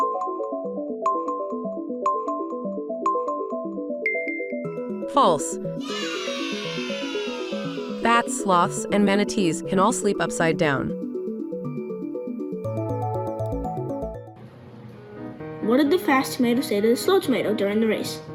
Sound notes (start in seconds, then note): 0.2 intriguing music; 5.8 children cheering; 10.9 intriguing music